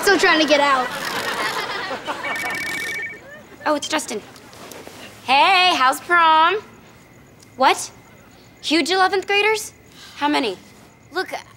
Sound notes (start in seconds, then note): 2.0 telephone rings